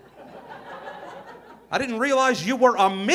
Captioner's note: audience laughing